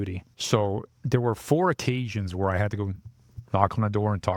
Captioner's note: knocking